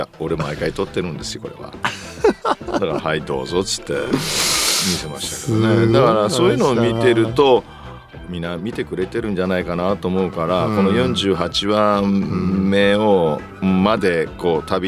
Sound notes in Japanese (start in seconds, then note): 1.8 笑い; 4.0 鼻息